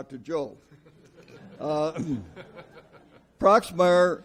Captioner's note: audience laughs